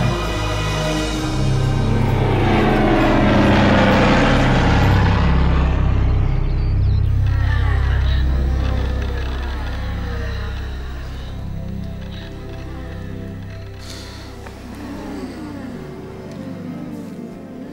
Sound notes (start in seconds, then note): 0.1 ominous music; 2.6 plane engines roaring